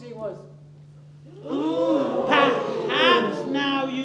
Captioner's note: oooh ooh